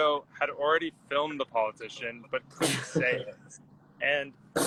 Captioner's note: laughs